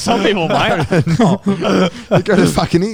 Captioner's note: all laughing